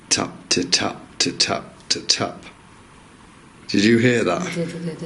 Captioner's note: soft taps; imitates tapping sounds